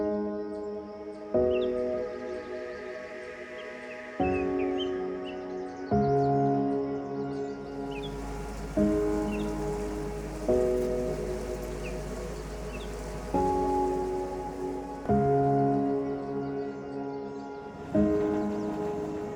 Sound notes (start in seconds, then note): 0.1 pensive music; 7.6 birds chirping